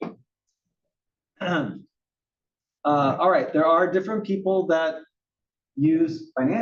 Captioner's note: cough